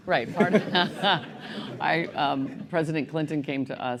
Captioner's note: laughter